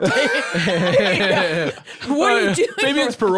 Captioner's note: both laughing